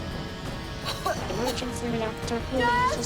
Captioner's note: coughing